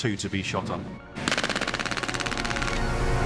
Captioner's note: gunshots